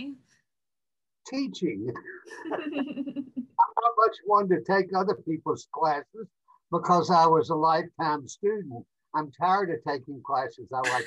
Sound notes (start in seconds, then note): 2.3 both laugh